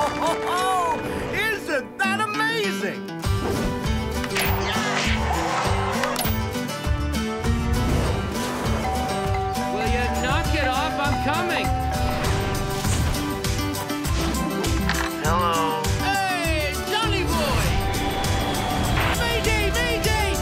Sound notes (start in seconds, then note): 0.0 chuckling; 6.1 doorbell ringing